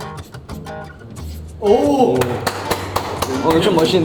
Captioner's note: applause!